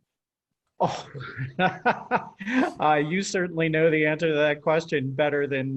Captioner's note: laughs